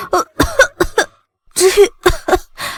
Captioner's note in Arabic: سعال